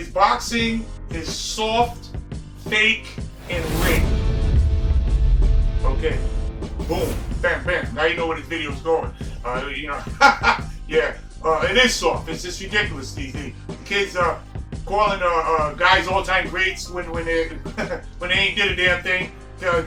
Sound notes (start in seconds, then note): 10.0 laughter